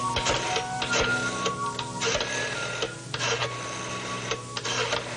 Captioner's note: dialing